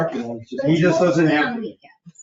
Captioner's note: people chattering